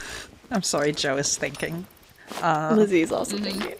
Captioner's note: sighs